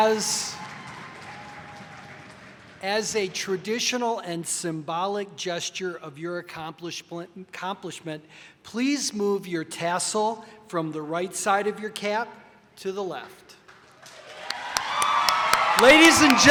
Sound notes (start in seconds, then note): 13.8 audience applauding